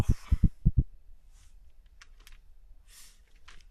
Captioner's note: heart beats escalate; heart beats stop